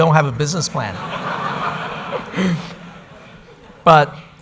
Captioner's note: audience laughter